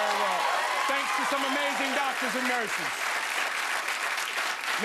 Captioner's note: cheers and applause